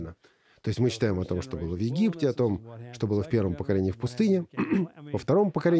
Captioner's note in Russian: прочищает горло